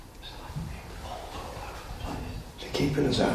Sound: whispering faintly

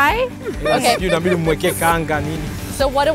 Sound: speaking swahili

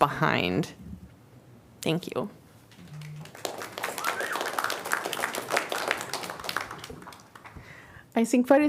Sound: applause

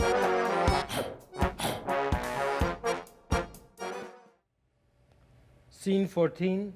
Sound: light whimsical folk music; person barking to beat; whimsical folk music

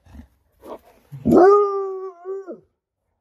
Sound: howling

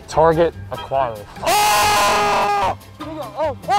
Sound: yelling

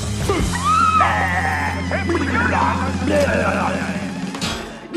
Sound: burbles

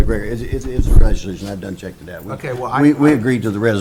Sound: voice distorts

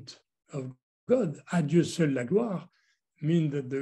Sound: french words

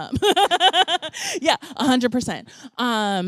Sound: laughter

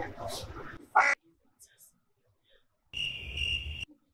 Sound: more crickets

